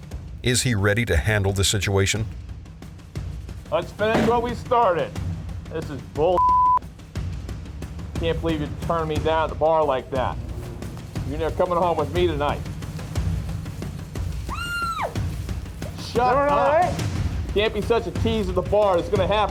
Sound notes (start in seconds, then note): 14.4 woman screams